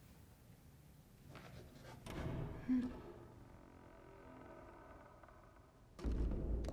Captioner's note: door creaking & shutting